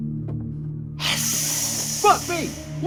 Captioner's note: hissing